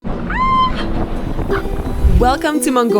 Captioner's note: shouts gleefully